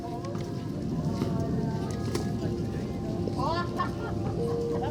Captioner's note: people talking in background